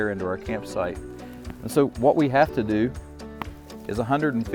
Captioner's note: fire popping